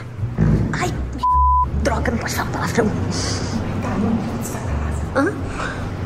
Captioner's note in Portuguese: sussurrando